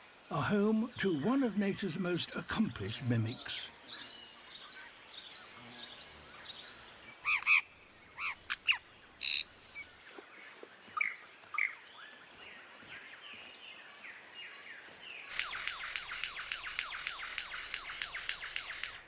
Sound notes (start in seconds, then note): 7.1 chirps; 14.8 mimics mechanical sound